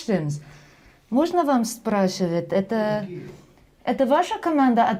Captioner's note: speaking russian